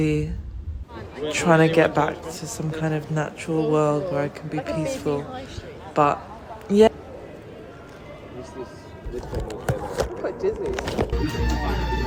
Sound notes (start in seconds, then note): 1.7 group voices; 6.9 city atmos; 9.0 clunk